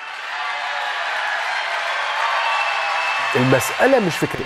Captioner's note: cheers and applause